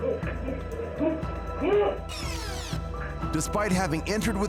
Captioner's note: tape rewinding